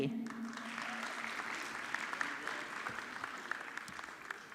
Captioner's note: audience clapping